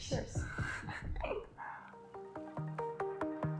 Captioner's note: laughs; upbeat electronic music